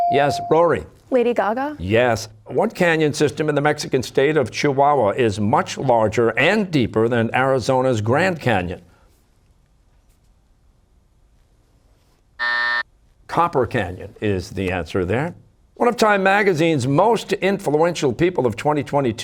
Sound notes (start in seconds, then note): 12.4 buzzer